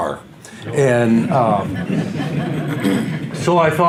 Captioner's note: audience laughs